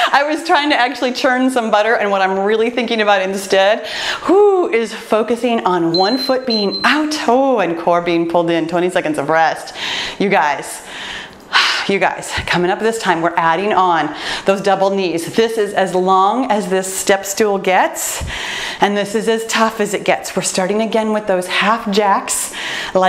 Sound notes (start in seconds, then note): 5.9 timer beeps; 10.8 breathes deeply